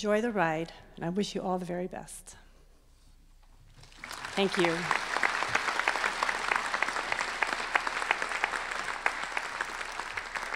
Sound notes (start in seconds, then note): 6.6 applause